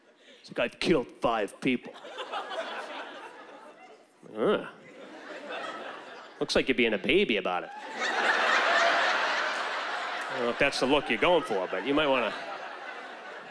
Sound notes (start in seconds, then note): 7.7 laughter